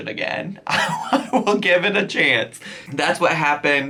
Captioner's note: laughs